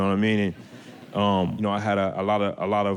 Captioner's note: audience laughter